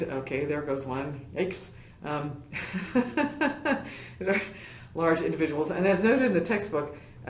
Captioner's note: laugh